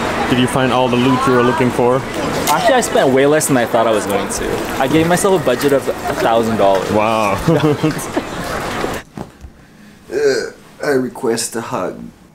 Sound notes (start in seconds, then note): 6.9 both laugh